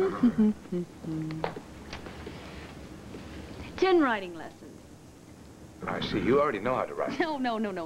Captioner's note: blair hums